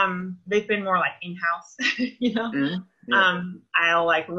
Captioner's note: laughs